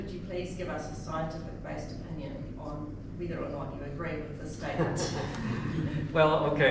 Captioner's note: chuckles